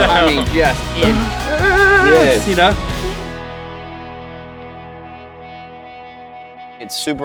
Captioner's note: vibrating noise